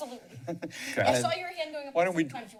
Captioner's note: laughter